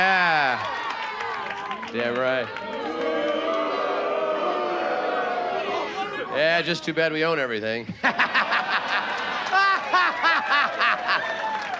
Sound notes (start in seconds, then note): 2.8 men booing; 7.9 audience laughing; 8.0 laughing